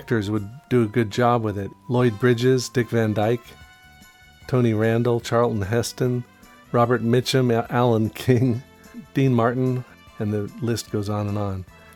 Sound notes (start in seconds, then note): 8.1 chuckles